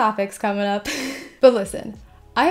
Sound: laughs

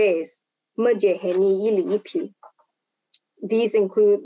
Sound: speaking foreign language

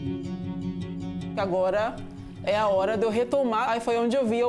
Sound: non-english speech

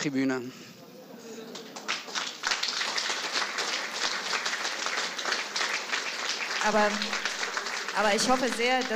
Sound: applause

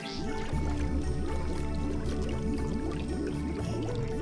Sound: water bubbling

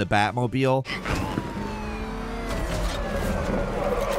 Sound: siren blares

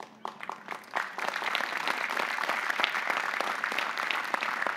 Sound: audience applauding

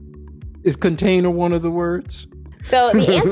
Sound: laughs

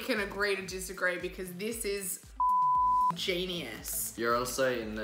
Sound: beep

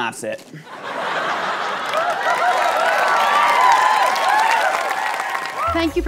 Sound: audience applause

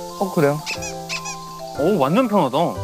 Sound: stepping

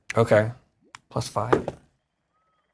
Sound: dice rolls

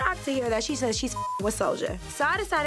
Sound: beep

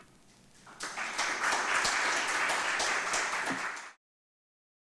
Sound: audience applause

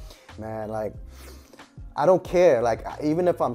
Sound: sniffs

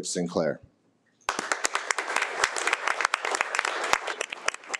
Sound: audience applauding

